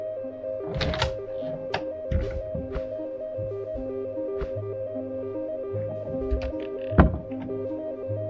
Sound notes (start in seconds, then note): 0.6 door opening